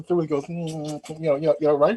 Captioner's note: lips smacking